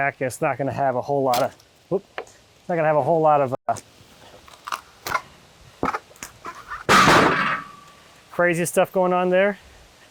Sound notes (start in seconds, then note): 1.3 wood crunching; 6.8 slab banging